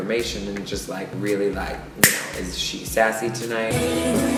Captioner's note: snaps